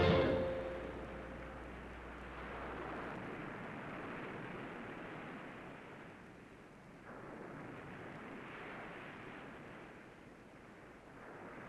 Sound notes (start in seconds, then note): 2.3 waves lapping